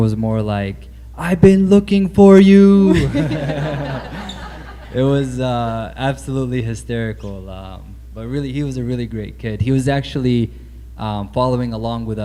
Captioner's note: laughter